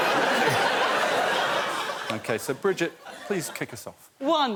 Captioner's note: laughter